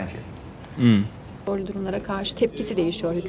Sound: speaking foreign language

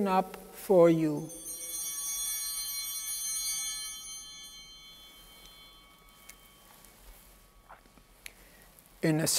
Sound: bell ringing

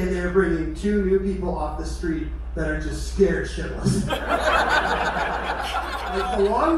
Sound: crowd laughter

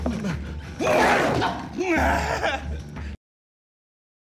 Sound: screaming

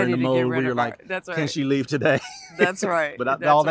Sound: laughter

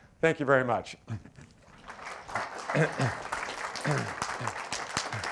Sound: applause

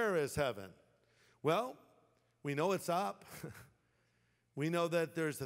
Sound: chuckles

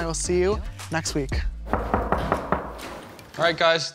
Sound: knock on door

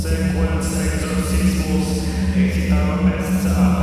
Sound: latin language

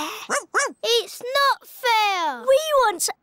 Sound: barks

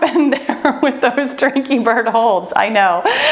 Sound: laughs

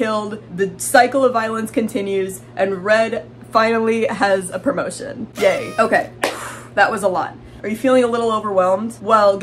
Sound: sigh

